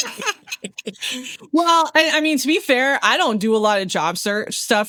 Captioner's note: laughing